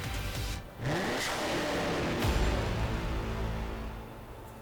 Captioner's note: engine revs